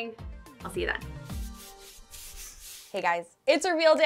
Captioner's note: brushstrokes swish